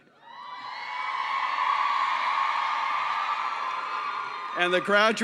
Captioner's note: cheering